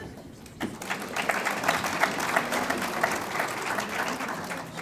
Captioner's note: audience applauds